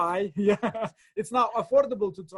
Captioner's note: laughter